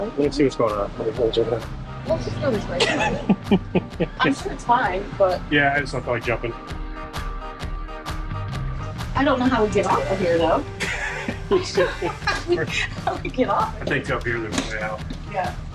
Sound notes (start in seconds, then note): 2.8 laughing; 10.7 laughs; 10.8 laughing